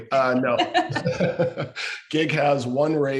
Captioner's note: laugh